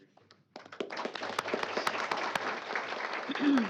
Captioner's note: applause